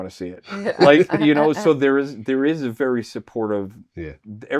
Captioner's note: laughing